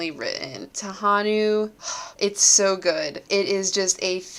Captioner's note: sigh